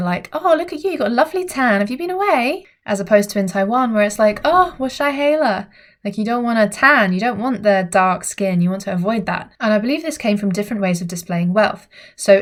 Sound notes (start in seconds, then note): 4.4 speaks in foreign language